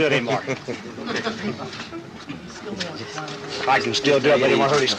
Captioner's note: laughing